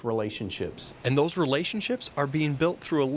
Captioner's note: voiceover